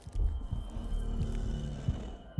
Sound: growls

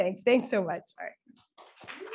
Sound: applause

